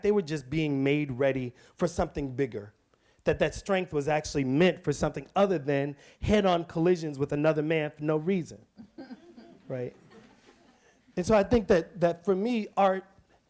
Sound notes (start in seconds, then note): 8.8 audience chuckles